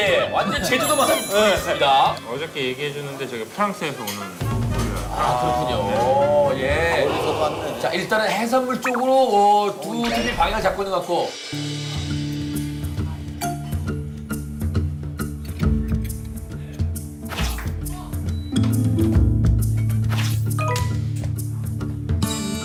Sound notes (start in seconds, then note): 6.6 haha